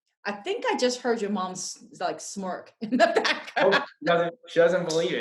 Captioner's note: laughs